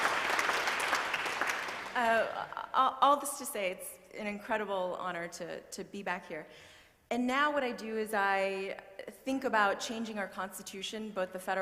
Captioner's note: applause